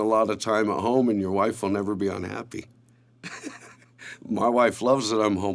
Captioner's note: laughs